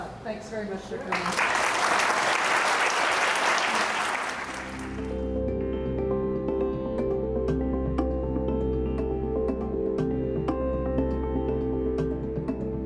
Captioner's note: applause